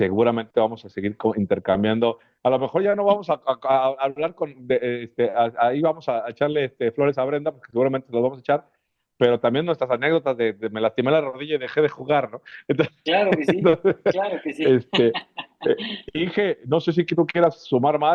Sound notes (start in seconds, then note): 13.1 risas